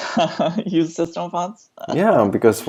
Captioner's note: laughs